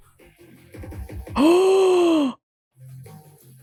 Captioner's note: gasp